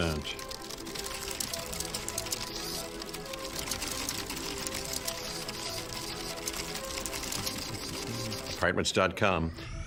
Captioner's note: rapid typing and clicking